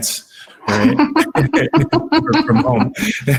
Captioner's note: laughs